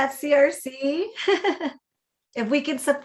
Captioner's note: laughs